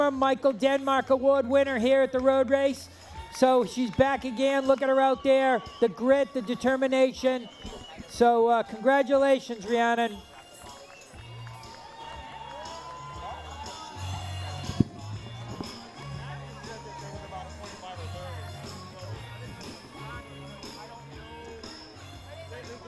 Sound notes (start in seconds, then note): 13.8 cheering